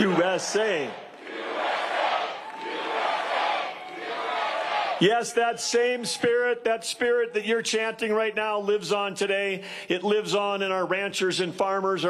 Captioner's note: cheers and applause; crowd chanting "usa"